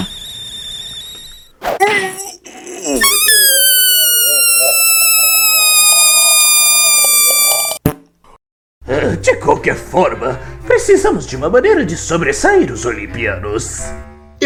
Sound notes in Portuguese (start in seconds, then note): 0.2 Sons de fúria; 3.0 Som de balão desinflando